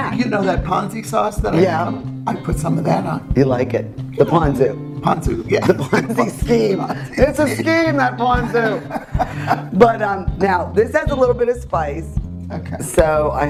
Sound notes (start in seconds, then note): 5.4 laughs; 8.9 both laugh